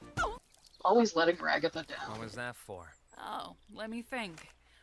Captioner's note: sighs